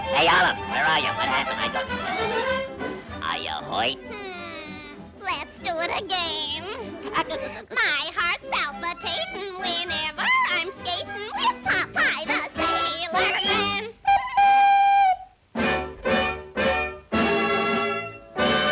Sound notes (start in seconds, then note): 7.0 Popeye laughs; 14.0 pipe toots; 15.4 triumphant music